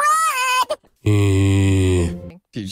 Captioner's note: zombie noise